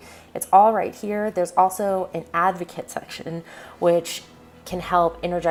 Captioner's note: breathe in